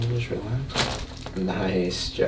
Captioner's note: cracking